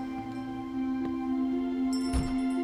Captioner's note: door opens